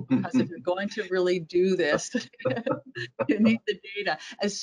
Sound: laughing; laughs

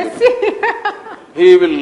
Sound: Julie Gichuru laughs

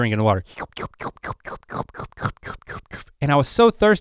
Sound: slurping

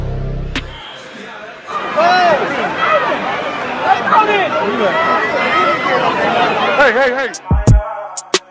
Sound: crowd chatter

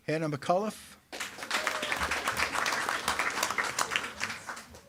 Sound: attendees clapping

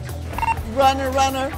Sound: walkie talkie beeps

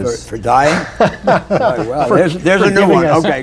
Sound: laughter

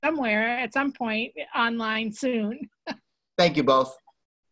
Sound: laughs

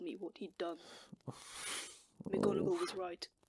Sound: Sirius makes a pained noise

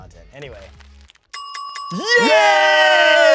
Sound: bell dings

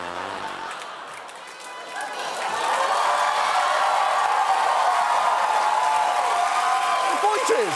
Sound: blows; fart noise; audience applauding, cheering

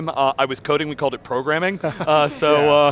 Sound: laughing

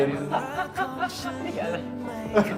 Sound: laughs like a chicken

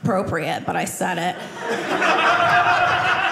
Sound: audience laughing

